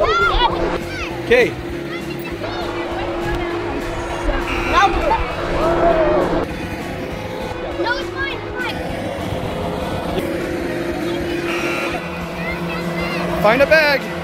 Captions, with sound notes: Okay. [Buzzer] Nope. [Buzzer] Find a bag.